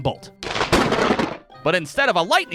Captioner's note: big crackle!